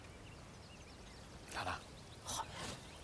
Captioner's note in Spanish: susurrando